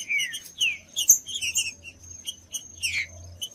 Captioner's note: trinca ferro cantando